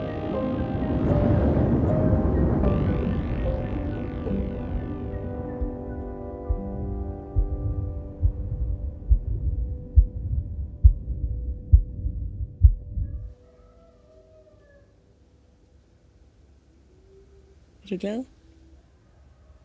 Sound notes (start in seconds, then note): 1.6 wave of water; 8.2 heartbeat